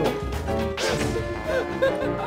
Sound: big Laughter

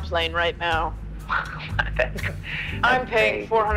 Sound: stuttering

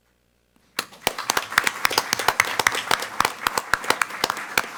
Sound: all applaud

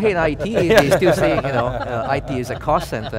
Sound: laughing

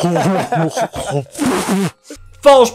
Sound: choking Noises; spitting

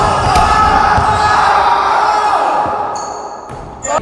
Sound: yelling

